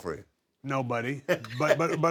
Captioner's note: laugh